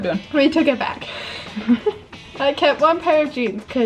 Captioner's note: both laugh